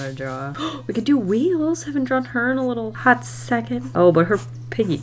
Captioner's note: gasps